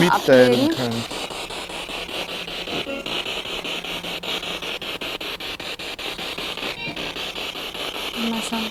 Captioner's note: sound of the Spirit Box in the background